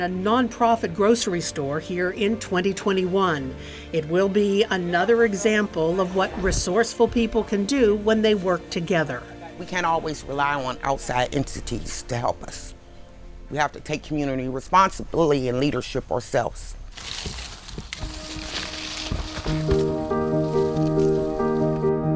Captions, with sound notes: a non-profit grocery store here in 2021. It will be another example of what resourceful people can do when they work together. - We can't always rely on outside entities to help us. We have to take community responsibility and leadership ourselves. (leaves rustling) (gentle uplifting music)